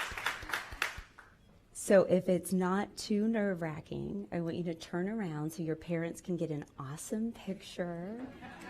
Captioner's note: applause